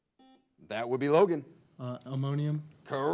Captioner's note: buzzer blares